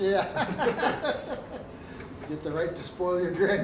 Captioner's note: both chuckling